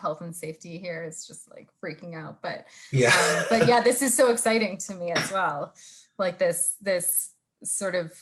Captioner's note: laughs